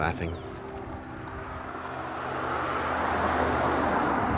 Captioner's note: traffic humming